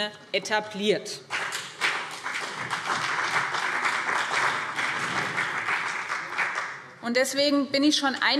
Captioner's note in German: Beifall BÜNDNIS 90/DIE GRÜNEN und CDU